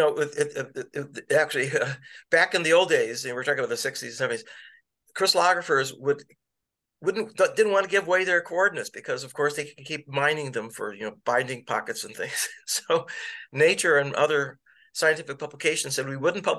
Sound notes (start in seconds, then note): 12.3 laughter